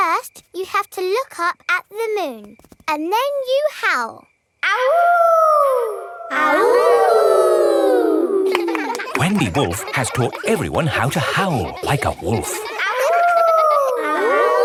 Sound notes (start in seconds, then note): 4.8 howling; 6.7 kids howling; 12.7 howling